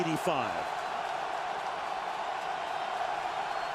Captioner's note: crowd cheering